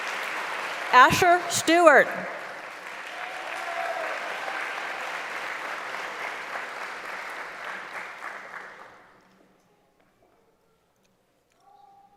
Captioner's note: applause; applause